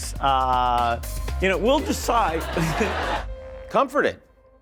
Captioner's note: chuckles